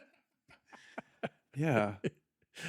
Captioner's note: laughing